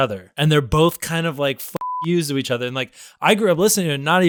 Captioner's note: beep